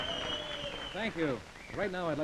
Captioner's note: cheering and applause